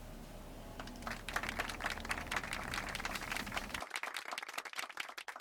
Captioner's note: applause